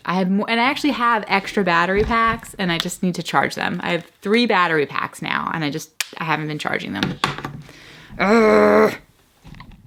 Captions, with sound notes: I have, and I actually have extra battery packs and I just need to charge them. I have three battery packs now and I just, I haven't been charging them. (grunts)